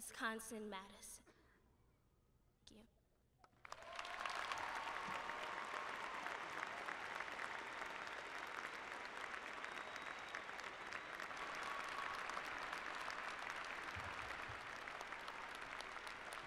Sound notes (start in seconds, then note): 3.5 applause